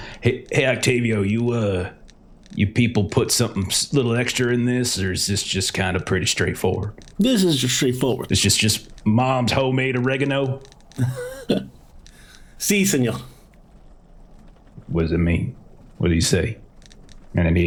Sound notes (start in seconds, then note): 10.7 laughs